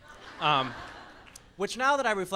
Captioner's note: laughs